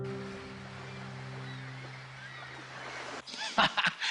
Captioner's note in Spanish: Canto de gaviotas; Risas